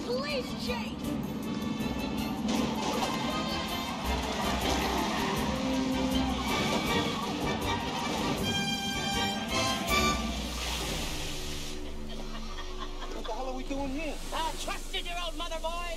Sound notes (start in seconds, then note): 3.9 gunshots